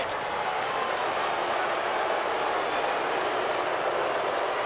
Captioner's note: crowd booing